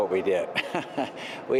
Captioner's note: laughter